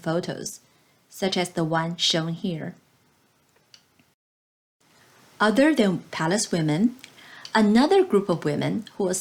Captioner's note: click